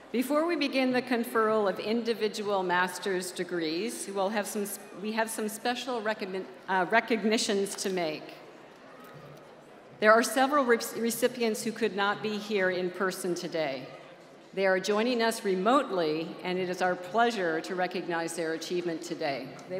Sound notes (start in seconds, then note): none